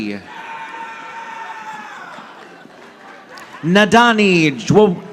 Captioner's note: audience applauding